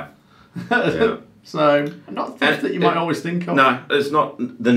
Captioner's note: laughs